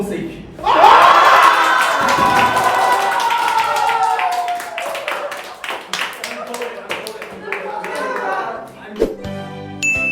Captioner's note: everyone cheers and applauds